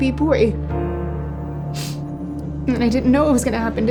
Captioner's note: crying softly